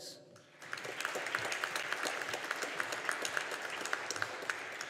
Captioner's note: audience applauding